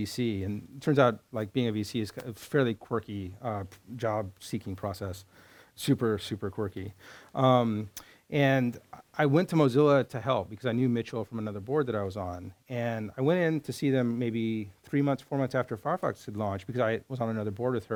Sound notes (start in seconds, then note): none